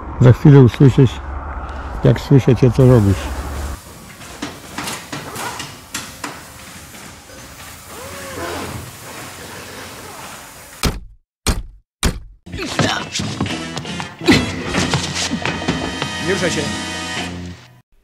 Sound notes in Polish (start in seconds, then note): 3.3 dźwięki z warsztatu samochodowego; 10.5 pukanie do drzwi